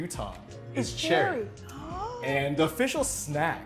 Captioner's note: gasping